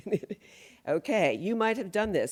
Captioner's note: laughs